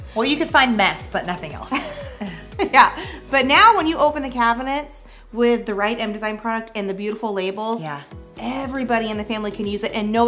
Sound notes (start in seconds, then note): 1.7 chuckles